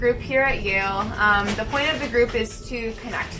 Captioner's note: papers rustling